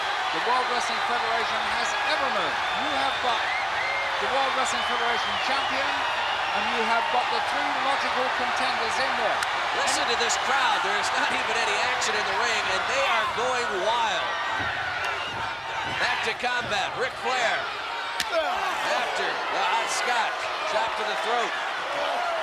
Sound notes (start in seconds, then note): 9.5 hands clapping; 17.8 blows thudding